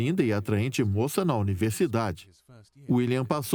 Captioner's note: voiceover